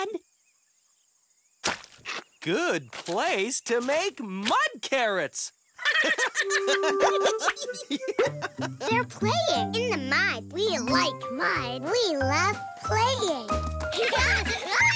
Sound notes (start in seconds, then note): 5.8 hearty laughter